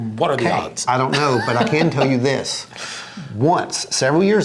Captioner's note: laughs